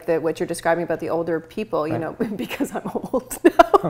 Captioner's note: laughs